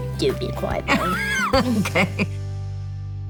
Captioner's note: laughs